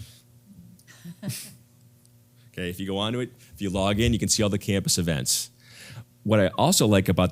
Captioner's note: laugh